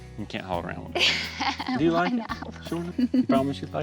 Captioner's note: laughing